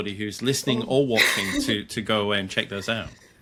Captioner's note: laughs